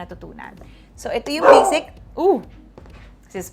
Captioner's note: loud bork